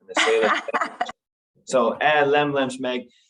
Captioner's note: laughter